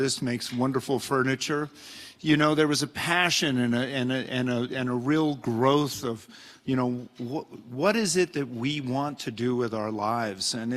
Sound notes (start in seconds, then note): none